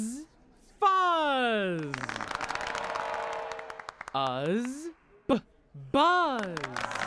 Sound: audience applauds each time new word is formed

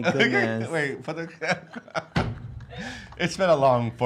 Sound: laughing

